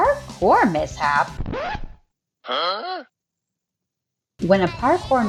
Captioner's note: record scratch & "huh?" SFX